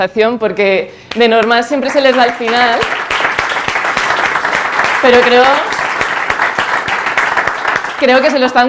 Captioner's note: claps